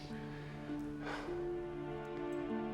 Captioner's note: sighs